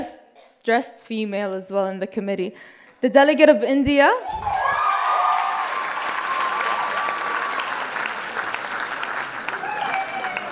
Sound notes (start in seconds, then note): 6.1 loud applause and cheers